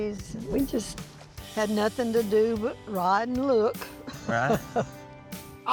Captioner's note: chuckles